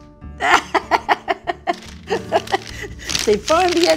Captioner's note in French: rires